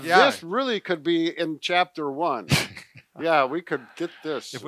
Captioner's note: laughs